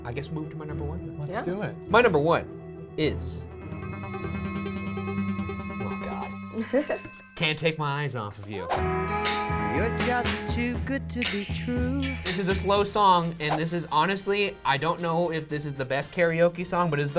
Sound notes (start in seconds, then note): 3.2 suspenseful music; 6.5 chimes dinging